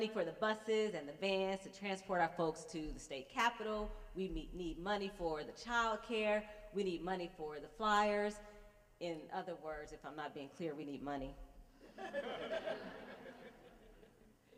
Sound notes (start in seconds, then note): 11.8 laughter